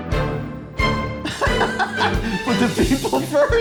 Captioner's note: laughs